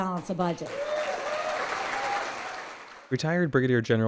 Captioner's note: crowd cheers